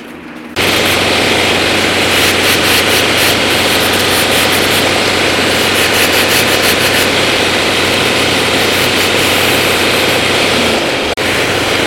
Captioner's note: grinding noise